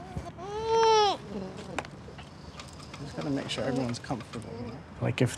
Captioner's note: whines